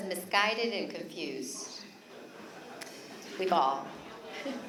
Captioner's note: laughter